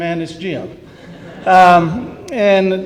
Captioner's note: laughter